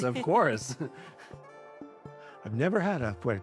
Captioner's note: laughter